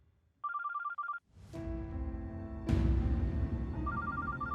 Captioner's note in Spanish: suena el celular